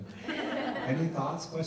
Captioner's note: people laughing